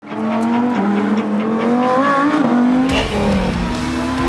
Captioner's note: engine roars